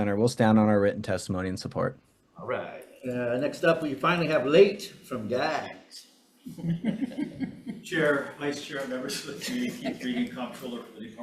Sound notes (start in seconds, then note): 6.5 chuckling